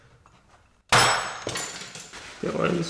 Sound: bang

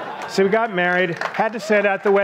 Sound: audience laughs

